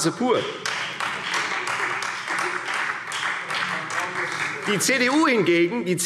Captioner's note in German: Beifall Freie Demokraten und vereinzelt SPD